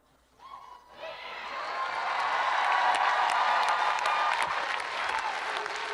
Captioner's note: audience applauding and cheering